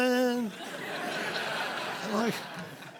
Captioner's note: laughter